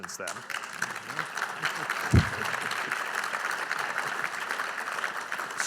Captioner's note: audience applauding